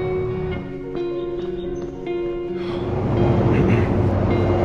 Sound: birds chirping

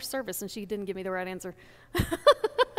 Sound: laughs

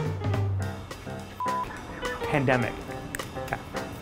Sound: upbeat music; beep

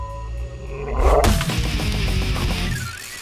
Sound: growling; hard rock music

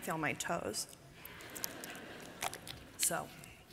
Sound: laughter

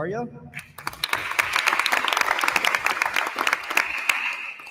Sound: attendees applauding

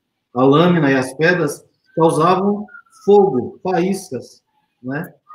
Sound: speaks portuguese

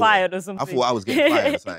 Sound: chuckles

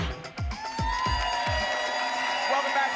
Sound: applause and cheering

